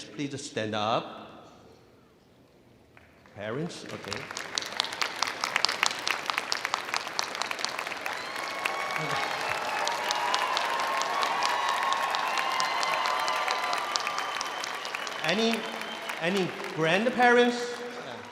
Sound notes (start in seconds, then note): 3.2 audience applauding; 8.2 audience cheering